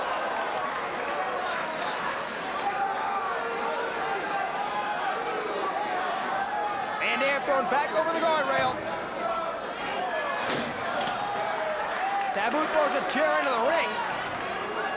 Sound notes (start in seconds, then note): 0.0 spectators cheering and applauding; 10.5 chair thudding; 10.8 spectators cheering and applauding